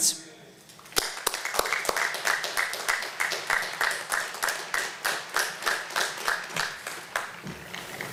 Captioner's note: applause